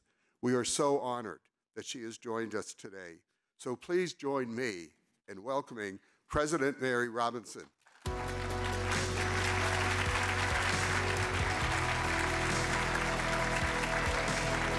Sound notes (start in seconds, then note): 8.0 audience clapping; 8.0 upbeat music